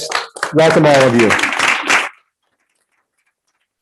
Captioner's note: group applauding